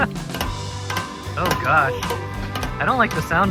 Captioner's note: equipment starts clinking